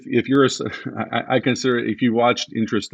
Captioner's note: chuckles